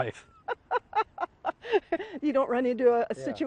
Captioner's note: chuckles